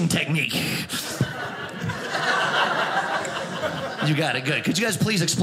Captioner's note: audience laughing